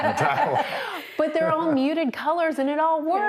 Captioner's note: everyone laughs